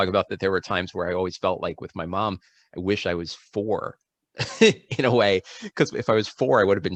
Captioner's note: laughter